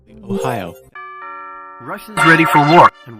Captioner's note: ding dong